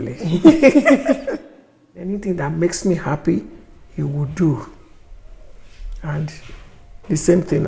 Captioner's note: laughs